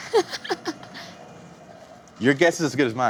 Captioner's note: laughs